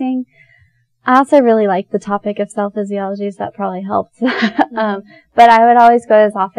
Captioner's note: both chuckle